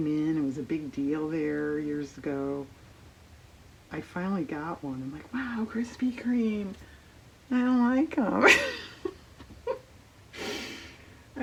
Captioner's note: laughs